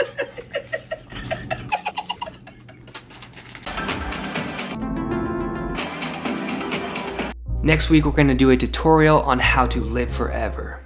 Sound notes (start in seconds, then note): 0.0 laughing; 2.8 paper rattling; 4.0 hip hop music; 4.9 dramatic music; 5.7 hip hop music